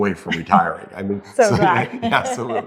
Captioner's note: laughs